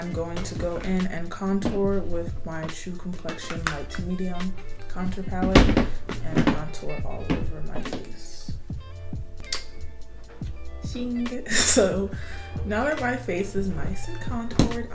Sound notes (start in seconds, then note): 8.6 laughs